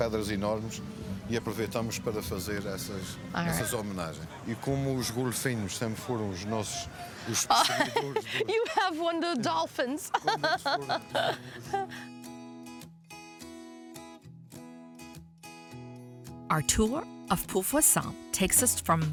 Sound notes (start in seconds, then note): 9.9 laughing; 12.6 easygoing music